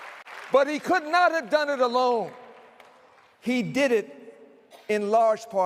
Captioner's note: cheering and applause